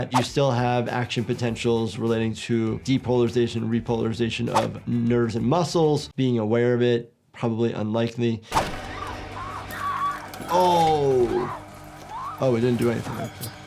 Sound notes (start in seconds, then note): 8.8 woman screaming